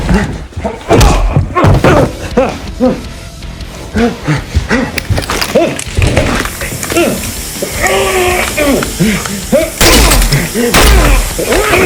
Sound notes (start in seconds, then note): 1.8 struggled breathing; 5.2 skin burning; 7.6 groaning; 9.8 armor plate shatters; 10.7 gunfire; 11.6 both grunt